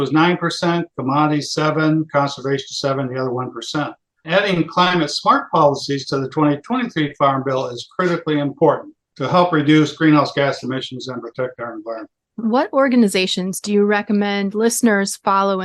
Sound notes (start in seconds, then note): none